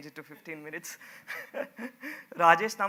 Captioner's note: laughs